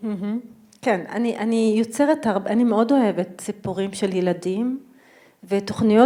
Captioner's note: speaking in foreign language